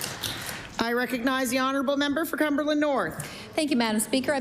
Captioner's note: applause